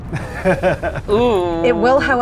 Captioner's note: chuckles